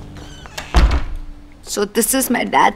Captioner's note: Door closes